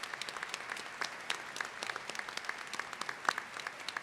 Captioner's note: applause